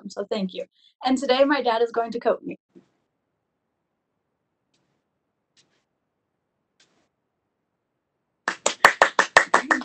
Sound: clapping

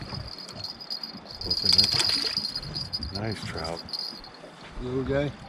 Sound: jangling

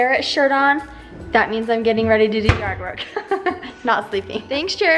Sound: laughs

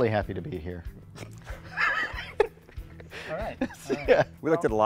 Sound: laughing

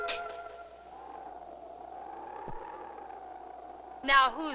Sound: wind blowing

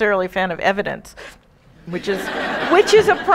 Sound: audience laughing

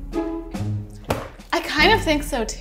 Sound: box thunks

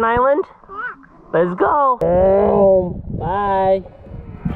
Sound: imitating motor

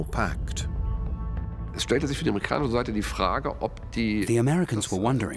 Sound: speaking German

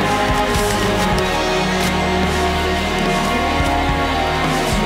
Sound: digging

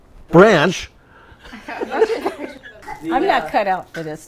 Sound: laughter

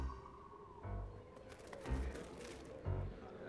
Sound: none

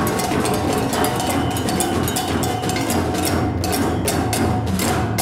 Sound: whistle blows

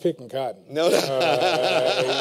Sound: laughter

